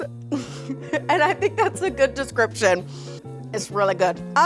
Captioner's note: chuckles